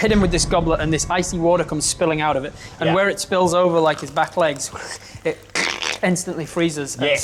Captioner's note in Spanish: cruje